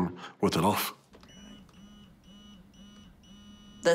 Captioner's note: machine whirrs, beeps